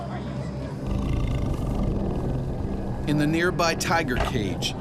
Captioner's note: growling; voiceover